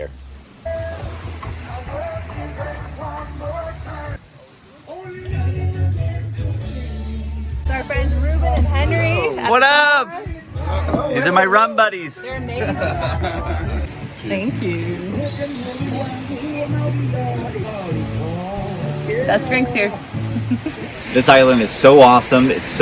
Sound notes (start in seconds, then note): 0.3 laid back music; 12.4 laughter; 16.2 laid back music; 20.1 giggles